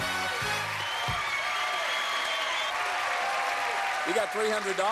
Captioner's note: upbeat music; cheers and applause